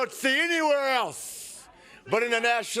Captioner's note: crowd cheering